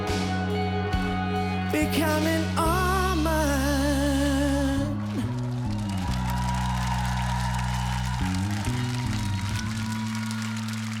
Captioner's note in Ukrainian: оплески